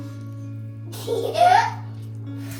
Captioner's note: the child is giggling